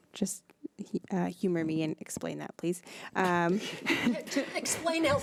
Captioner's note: laughs